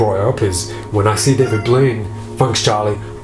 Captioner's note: toy squeaking